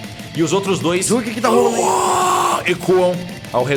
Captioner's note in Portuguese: uuuaaah